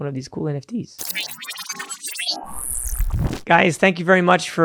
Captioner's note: electronic beeping